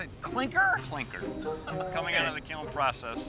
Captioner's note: laughs